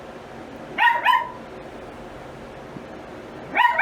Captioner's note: Ella continues barking off-screen